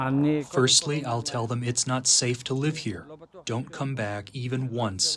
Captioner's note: through translator